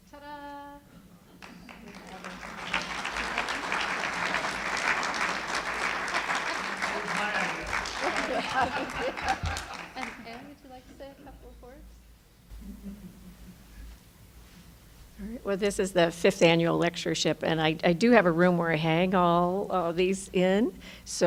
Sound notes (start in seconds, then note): 1.9 applauding; 8.9 laughing